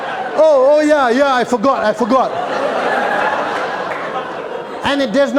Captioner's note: laughter